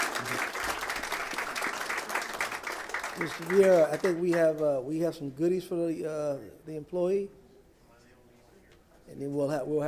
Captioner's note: applause